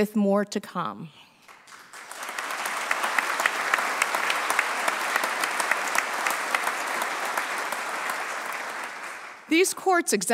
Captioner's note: applause